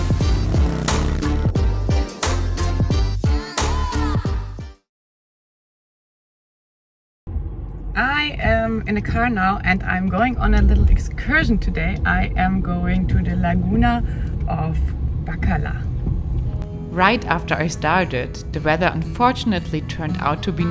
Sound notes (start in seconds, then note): 0.0 motorbike roaring